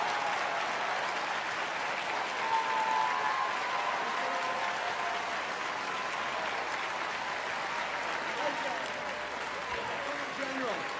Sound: applause

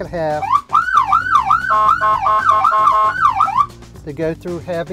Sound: siren blaring

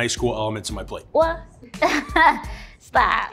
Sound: laughs

